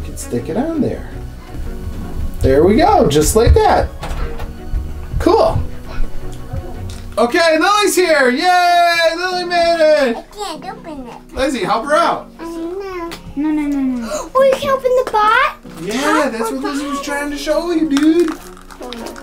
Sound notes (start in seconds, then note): 13.9 gasping